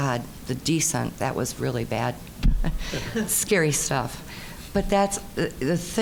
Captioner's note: laughing